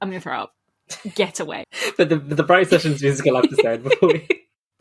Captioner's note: laughing; laughs